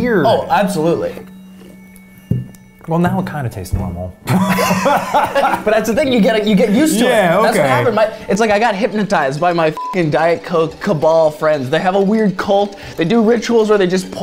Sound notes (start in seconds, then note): 4.2 laugh; 9.8 beep